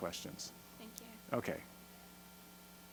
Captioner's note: voiceover